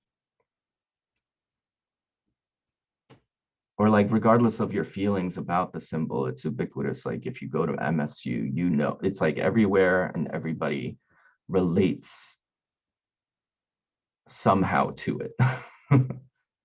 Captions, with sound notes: Or like regardless of your feelings about the symbol it's ubiquitous. It's like if you go to MSU, it's like everywhere and everybody relates somehow to it (chuckling).